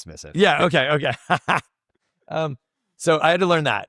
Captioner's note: laughs